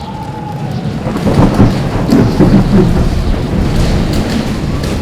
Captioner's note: thunder rumbles